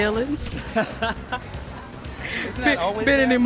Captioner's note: laughs